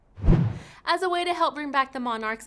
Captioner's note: whooshing